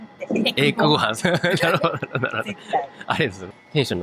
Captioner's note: laugh